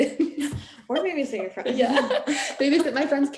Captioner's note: laughing